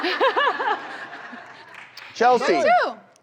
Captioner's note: audience laughs